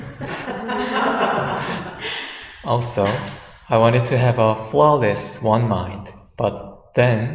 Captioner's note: audience laughs